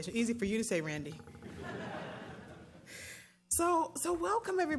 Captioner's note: laughter